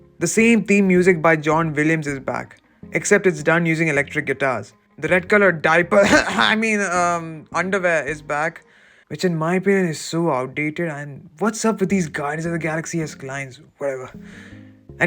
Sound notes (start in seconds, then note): 6.0 cough cough